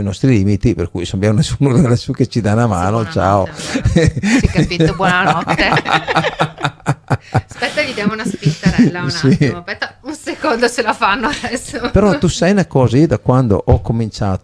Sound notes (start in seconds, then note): 5.9 laughs